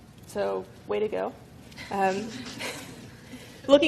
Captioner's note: laughing